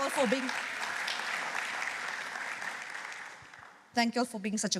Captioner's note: applause